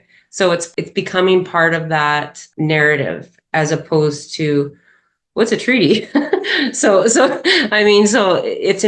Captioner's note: laughs